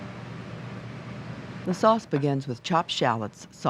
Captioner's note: voiceover